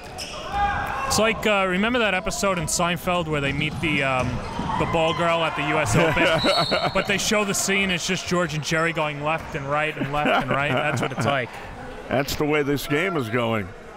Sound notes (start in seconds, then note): 0.0 crowd cheering; 5.9 laughs